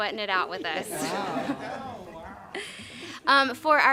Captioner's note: laughter and murmured impressed remarks